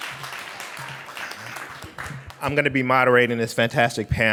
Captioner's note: clapping